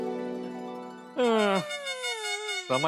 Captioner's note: cries